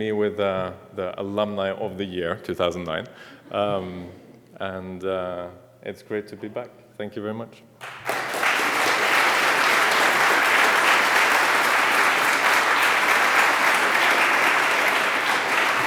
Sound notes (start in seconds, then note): 7.8 applause